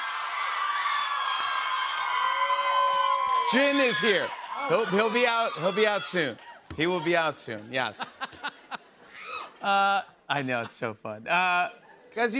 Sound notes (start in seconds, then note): 0.0 cheers and applause; 7.9 laughs